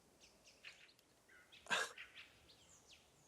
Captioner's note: nervous laugh